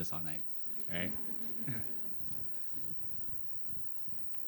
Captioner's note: laughter